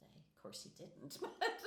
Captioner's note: laughing